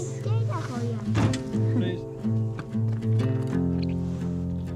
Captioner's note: foreign language; relaxing guitar music